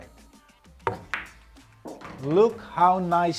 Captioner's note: ball bangs